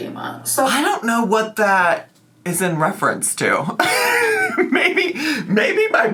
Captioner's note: laughs